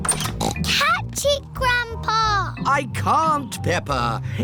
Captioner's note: snorts